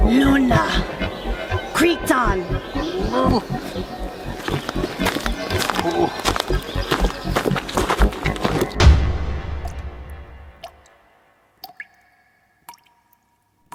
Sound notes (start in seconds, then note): 5.2 gravel crunching; 11.5 water dripping